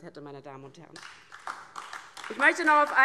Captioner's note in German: Beifall DIE LINKE